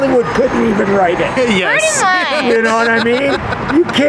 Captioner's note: laughs